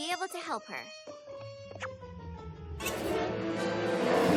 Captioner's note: roars